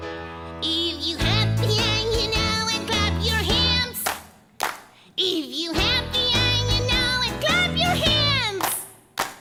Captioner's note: clap Clap